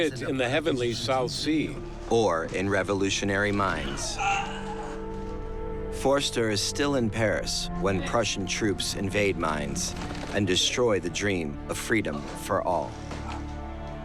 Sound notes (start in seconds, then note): 3.7 moans in pain